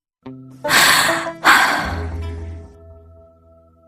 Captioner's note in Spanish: Suspiro